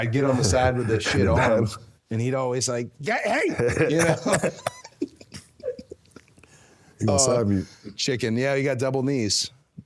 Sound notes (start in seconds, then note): 3.5 both laughing